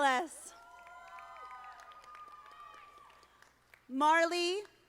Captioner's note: audience applauding